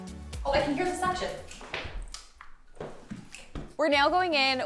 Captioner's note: suction noise